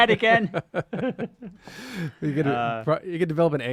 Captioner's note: laughter